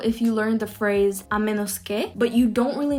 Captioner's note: speaks in foreign language